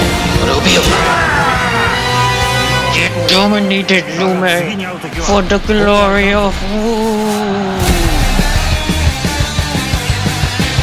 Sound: KO Scream

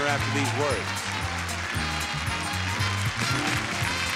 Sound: audience cheering

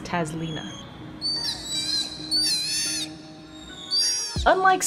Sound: sea otter pup vocalizations

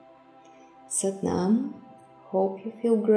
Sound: speaking in foreign language

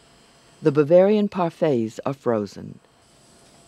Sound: voiceover

